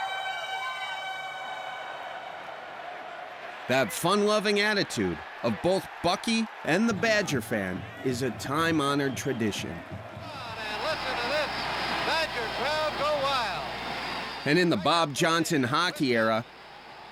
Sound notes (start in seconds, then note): 2.7 air horn; 2.7 crowd cheers